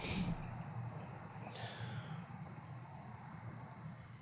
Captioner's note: sighs